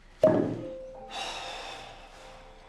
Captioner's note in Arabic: تنهد